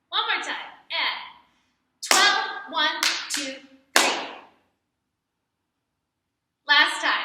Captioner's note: clap